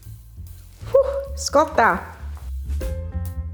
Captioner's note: speaking italian